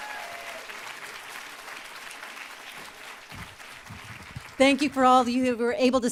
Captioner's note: applause